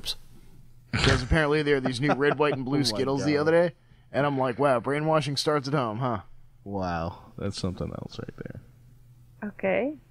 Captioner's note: laughing